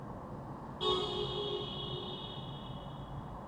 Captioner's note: passing cars honking